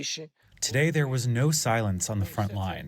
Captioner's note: through translator